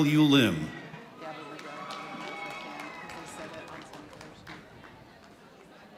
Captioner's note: audience applauding